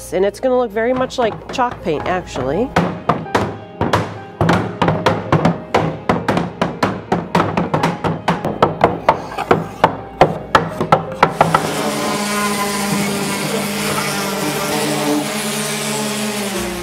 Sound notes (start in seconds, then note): 4.9 hammers pounding; 11.1 sander grinding